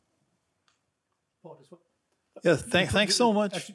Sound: murmurs

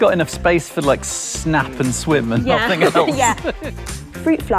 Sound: laughs

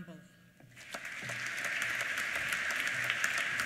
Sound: applause

